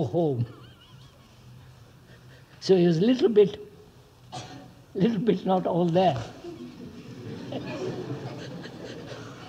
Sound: laughs; laughter

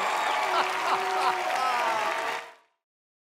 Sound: Audience chanting "Pee-wee!"; laughs

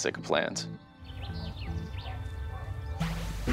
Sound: bird chirping; gentle music

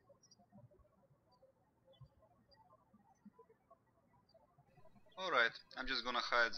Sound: birds chirping

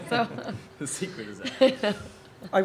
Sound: laughter

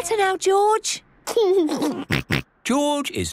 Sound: giggles

